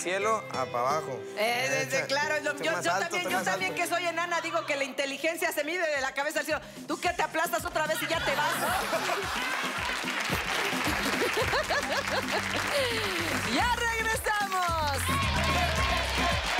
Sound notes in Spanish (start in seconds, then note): 10.4 Carcajadas; 11.7 Aplausos